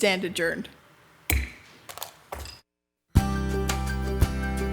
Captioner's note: gavel clacks, pen clatters